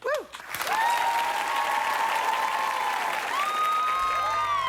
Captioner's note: applause